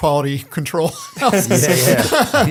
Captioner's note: laughter